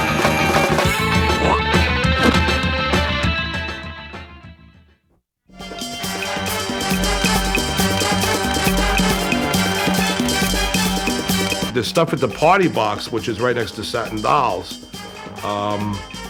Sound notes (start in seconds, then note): 2.1 spits